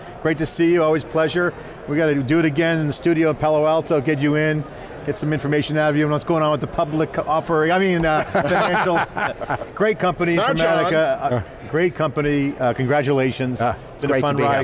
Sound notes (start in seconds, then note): 8.2 laughs